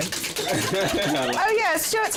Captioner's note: chuckles